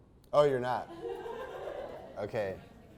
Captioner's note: audience giggles